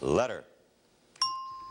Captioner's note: ringing bell